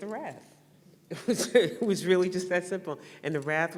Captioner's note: laughs